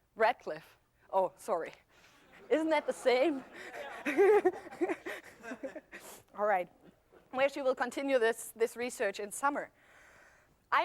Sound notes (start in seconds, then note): 3.9 laughter